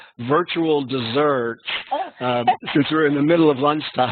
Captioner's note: laughing